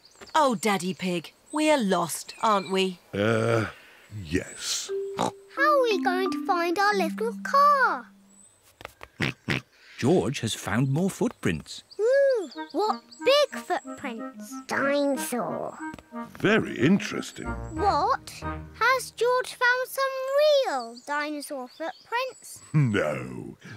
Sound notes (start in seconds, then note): 5.1 snorts